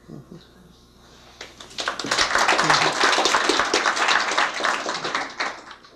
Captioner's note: applause